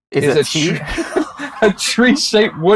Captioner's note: both laughing